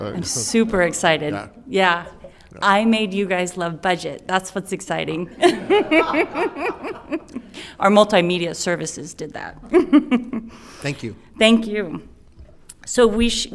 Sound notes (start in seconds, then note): 5.3 laughing; 9.6 chuckles